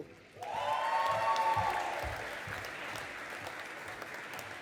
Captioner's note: audience applauding